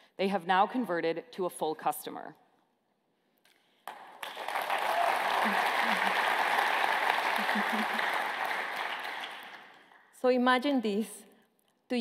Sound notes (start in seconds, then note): 3.8 applause